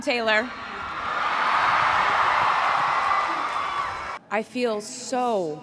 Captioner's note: crowd cheering